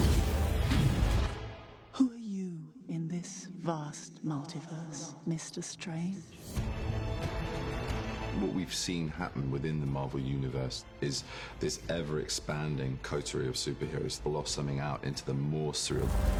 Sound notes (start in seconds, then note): 2.7 echoing